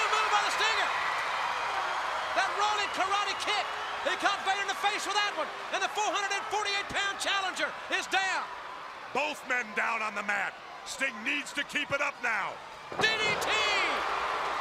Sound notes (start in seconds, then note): 5.2 crowd cheering; 14.3 crowd cheering